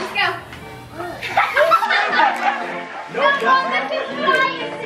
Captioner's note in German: lacht